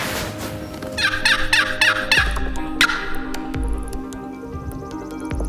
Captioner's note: imitation squawking